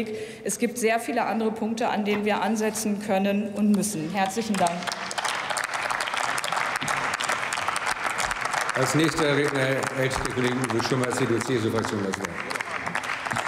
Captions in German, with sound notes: Es gibt sehr viele andere Punkte, an denen wir ansetzen können und müssen. Herzlichen Dank. *Applaus*